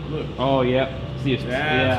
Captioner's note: voiceover